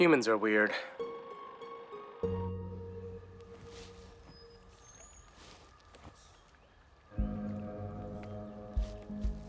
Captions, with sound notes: Humans are weird. [birds singing] [soft music]